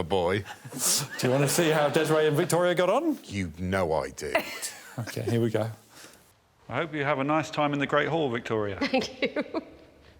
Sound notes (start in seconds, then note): 4.3 chuckles